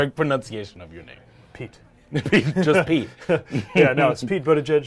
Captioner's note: laughs